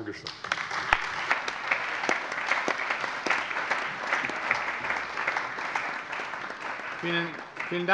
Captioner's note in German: Allgemeiner Beifall